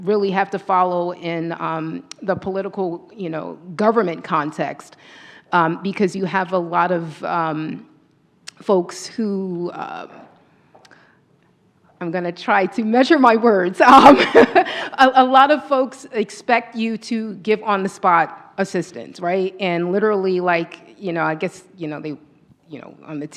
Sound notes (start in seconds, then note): 13.3 laughs